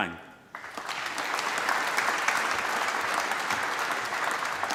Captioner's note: applause